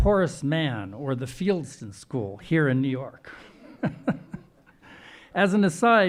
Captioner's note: laughing